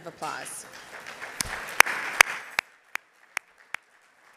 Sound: audience applauding

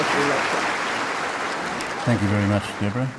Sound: audience applause

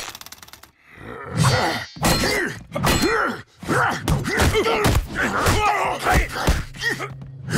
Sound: grunting; grunting

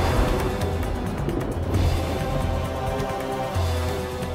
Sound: thundering

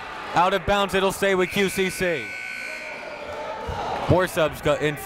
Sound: buzzer goes off

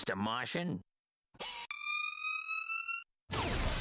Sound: whirring

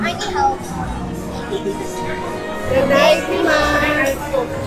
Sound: laughing

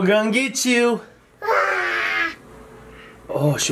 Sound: screeching

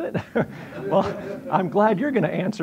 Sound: audience laughing

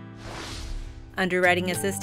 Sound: swooshing sound

